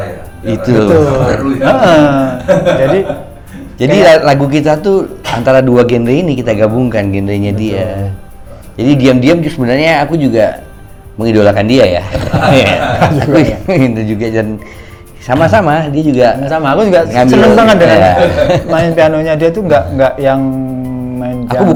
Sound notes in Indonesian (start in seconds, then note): 0.5 tertawa; 12.0 tertawa; 17.3 tertawa